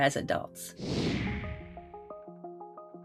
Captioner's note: computer whooshing; playful music